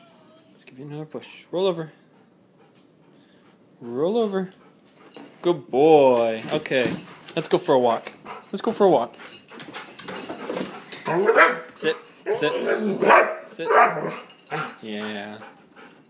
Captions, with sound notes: Let's give you another push. Roll over. Roll over. Good boy! Okay. Let's go for a walk. Let's go for a walk. [Excited whines and barks] Sit. Sit. [Excited whines and barks] Sit. Yeah...